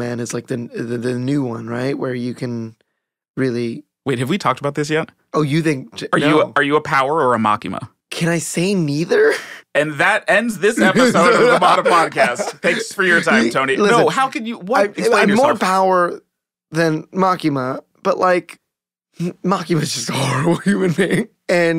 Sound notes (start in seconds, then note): 10.6 Tony laughing